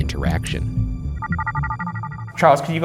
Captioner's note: alarm chimes